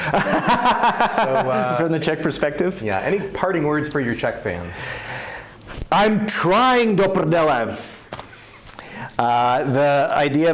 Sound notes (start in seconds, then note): 0.0 laughs; 6.8 yells